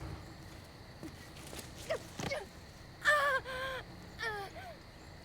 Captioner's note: Mackenzie grunting